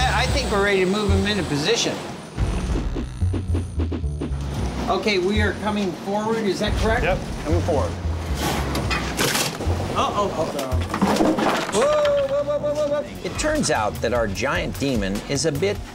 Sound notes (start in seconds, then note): 8.9 crunch; 10.8 clattering